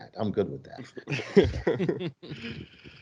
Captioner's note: laughs